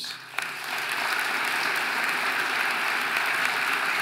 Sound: audience applauding

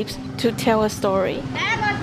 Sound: street sounds

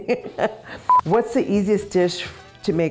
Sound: laughing; beeping

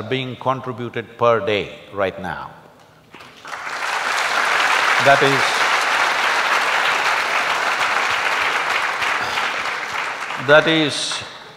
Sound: applause

